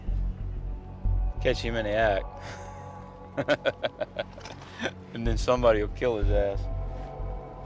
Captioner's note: bell; laughs